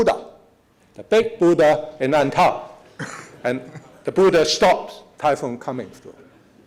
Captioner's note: foreign words